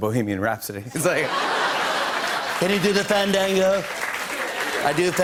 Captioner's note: As Trump